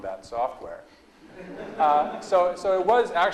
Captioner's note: audience laughs